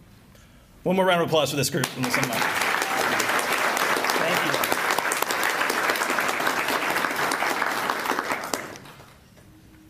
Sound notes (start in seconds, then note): 1.9 applause